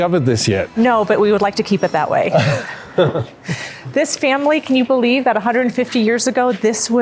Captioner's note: both laugh